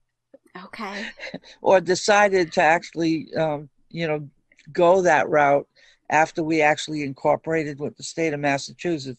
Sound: chuckle

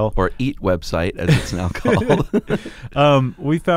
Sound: both laughing

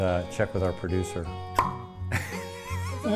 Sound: bottle popping noise; laughs

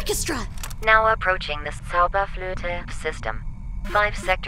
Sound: perfect German pronunciation

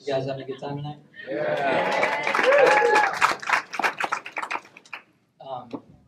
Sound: cheers

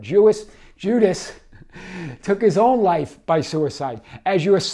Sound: chuckles

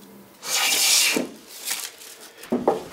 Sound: bright grinding noises

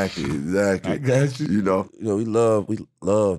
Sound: laughing

